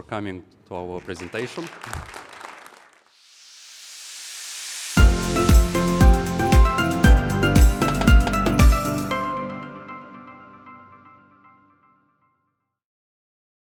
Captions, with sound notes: coming to our presentation. (audience applauds) (upbeat music)